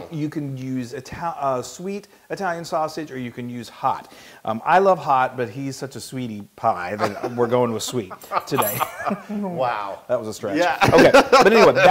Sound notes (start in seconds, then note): 7.0 laugh